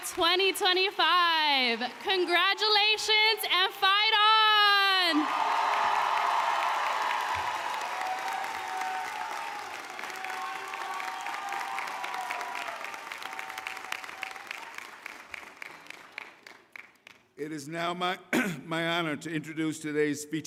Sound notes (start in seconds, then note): 1.8 applause; 6.4 cheering